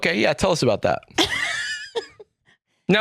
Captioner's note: laughs